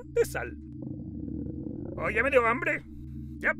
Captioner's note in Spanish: gruñe su estómago